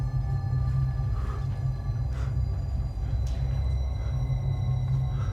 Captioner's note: breathing heavily